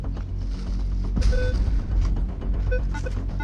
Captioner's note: beeping